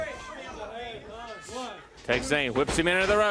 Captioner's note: crowd chatter